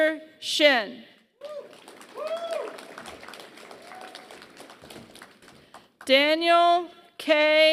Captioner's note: applause